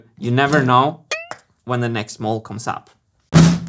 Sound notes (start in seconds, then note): 1.1 boing; 3.3 whack